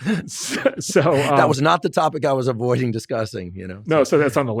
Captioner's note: laughs